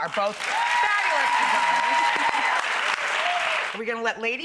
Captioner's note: applause